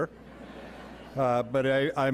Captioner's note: audience laughing